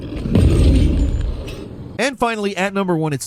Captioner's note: loud thump